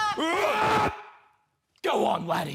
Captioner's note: grunt